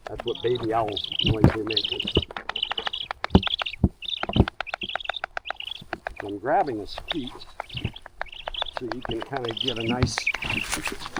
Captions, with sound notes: That's what baby owls... the noise they make [Continued owlet cries and bill-clacks] I'm grabbing his feet so he can kind of get a nice...